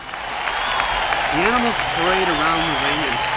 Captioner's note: 观众欢呼